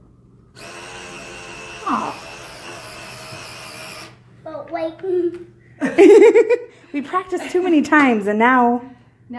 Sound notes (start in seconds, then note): 0.7 money gun running; 5.8 laughing